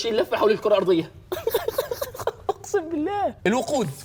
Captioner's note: laughing